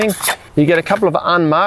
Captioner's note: poles clinging